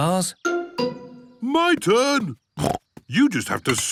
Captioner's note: snorts